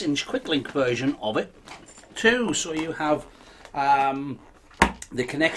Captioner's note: balloon twangs